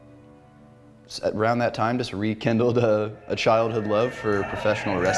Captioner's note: audience cheering